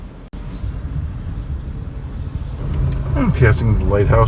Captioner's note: birds chirping